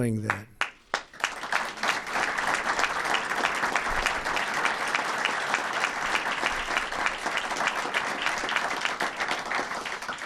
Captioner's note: applause